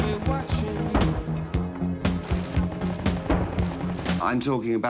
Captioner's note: gun shots